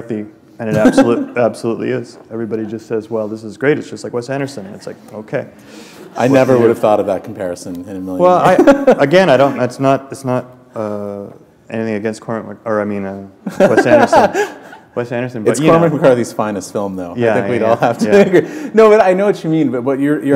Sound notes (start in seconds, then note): 11.4 laughter